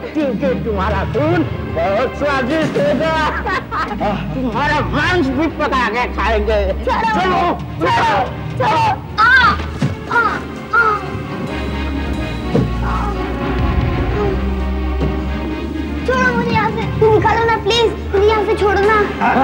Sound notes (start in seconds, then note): 9.1 groans